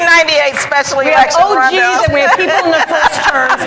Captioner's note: laughter